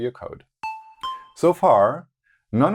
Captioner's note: notes sound